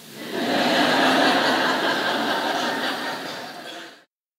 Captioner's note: laughter